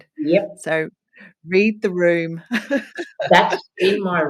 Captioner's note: laughs